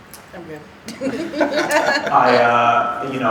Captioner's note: laughing